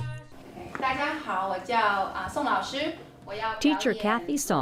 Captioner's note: speaking Mandarin